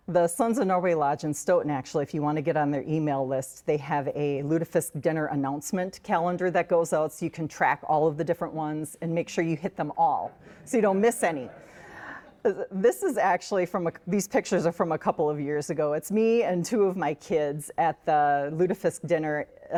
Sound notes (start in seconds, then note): 10.8 audience laughs